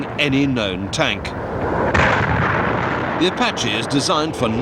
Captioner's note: artillery explode